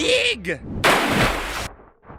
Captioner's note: splash